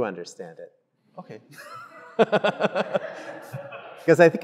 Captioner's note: laughs